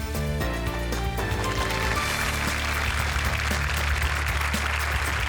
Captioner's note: applause